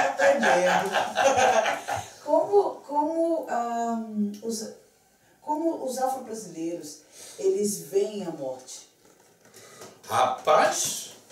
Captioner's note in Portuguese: lacht; lacht